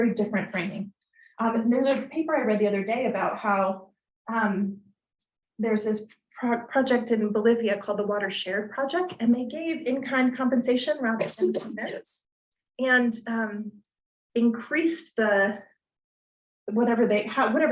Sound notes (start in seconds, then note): 11.1 coughing